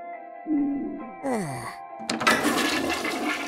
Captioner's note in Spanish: suspiro; sonido de descarga